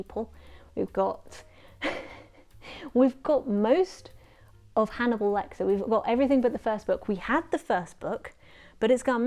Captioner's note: laughs